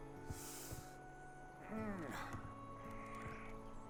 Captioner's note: gasps, groans